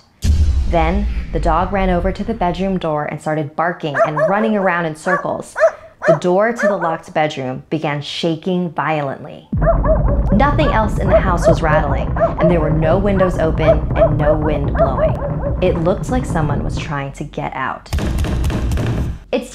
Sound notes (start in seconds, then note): 0.2 booms; 9.4 thuds